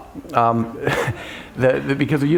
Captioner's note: laughter